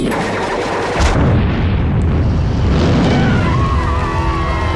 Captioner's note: missile exploding; people cheering and applauding